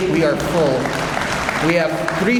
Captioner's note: audience applauds